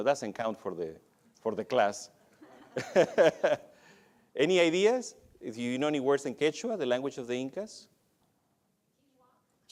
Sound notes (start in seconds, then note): 2.3 laughs